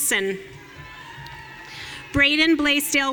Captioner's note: audience cheering